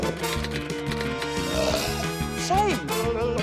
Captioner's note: belches; typewriter clacks